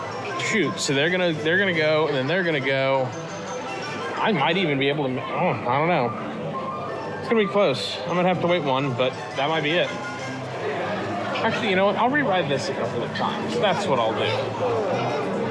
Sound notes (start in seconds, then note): none